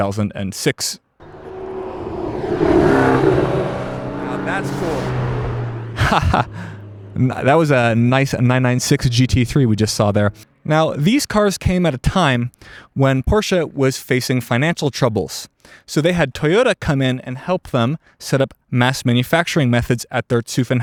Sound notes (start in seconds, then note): 4.2 engine roar